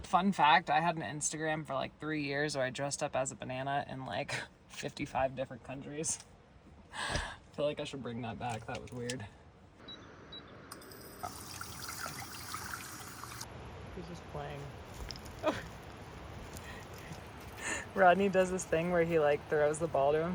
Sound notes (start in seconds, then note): 9.8 beeping; 11.2 water sloshing